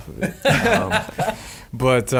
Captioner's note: laughing